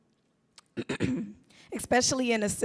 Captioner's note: clears throat